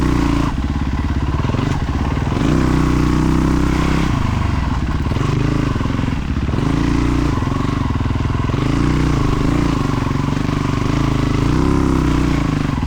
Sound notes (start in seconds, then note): 0.8 engine revving